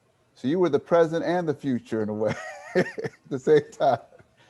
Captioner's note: laughs